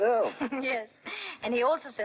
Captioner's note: Grandpa chuckles; Leslie laughs